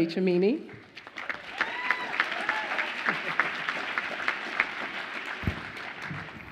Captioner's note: audience applauds and cheers